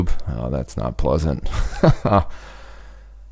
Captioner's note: chuckles